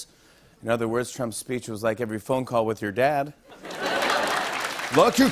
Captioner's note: laughter